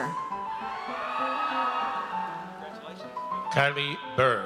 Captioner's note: audience cheers